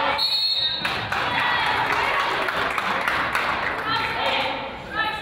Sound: whistle blows; crowd applauds

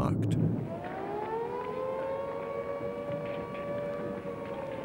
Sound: siren wailing

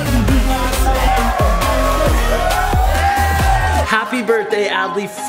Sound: crowd cheering

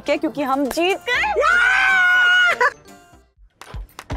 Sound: shouts

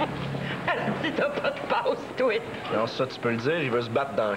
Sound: Rire

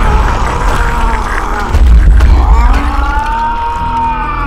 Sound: Larvo growling

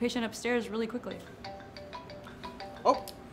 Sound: phone alarm rings

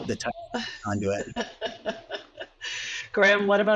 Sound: laughs

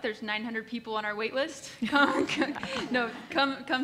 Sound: laugh

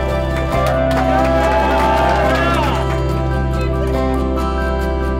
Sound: people cheering; upbeat music

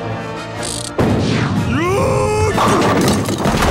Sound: screaming; bowling pins falling

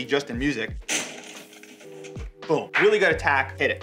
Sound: crashing

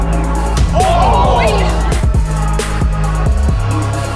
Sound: crowd chattering

